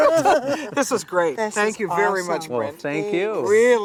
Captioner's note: laughter